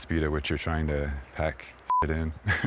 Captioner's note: beeping